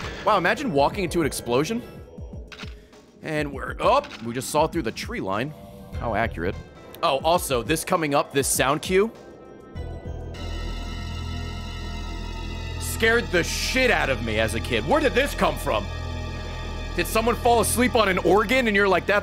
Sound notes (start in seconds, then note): 11.1 scary noise